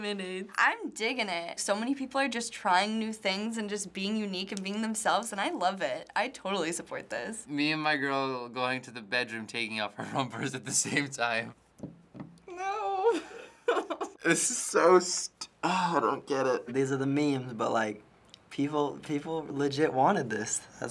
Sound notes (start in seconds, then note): 12.5 giggling; 15.2 groaning